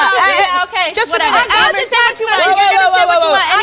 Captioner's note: yelling